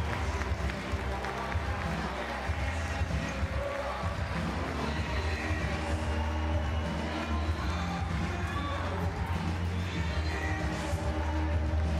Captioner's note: cheering and Applause